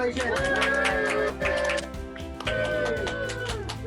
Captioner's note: crowd applauding